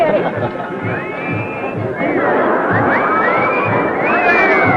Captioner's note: crowd whistling